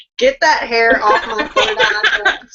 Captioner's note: laughing